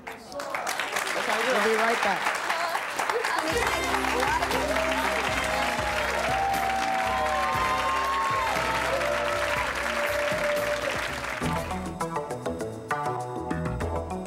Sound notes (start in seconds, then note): 5.6 applause; 11.3 dramatic music